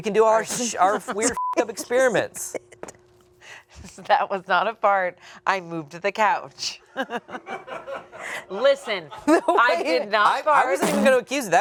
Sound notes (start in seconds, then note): 1.3 beep; 7.0 and producer laughs